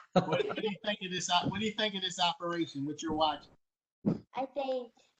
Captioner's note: laughter